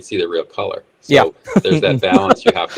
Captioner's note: laughs